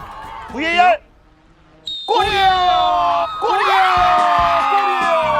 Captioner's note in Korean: 호루라기 소리